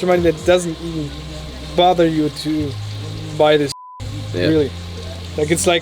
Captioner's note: beep